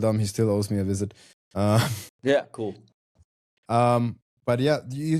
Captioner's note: chuckles